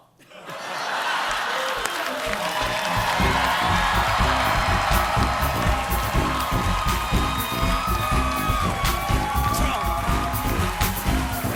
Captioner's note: laughter